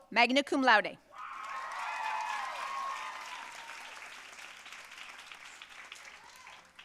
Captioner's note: audience cheering and applauding